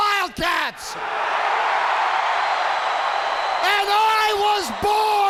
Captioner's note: crowd cheering